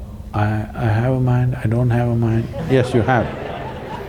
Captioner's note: laughter